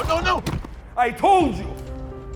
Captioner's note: gun firing